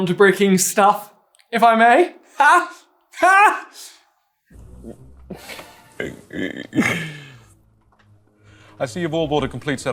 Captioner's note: smarmy laughter